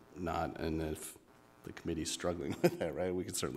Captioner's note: chuckles